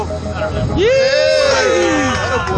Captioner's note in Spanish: gritando y animando